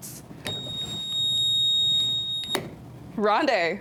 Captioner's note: buzzer beeps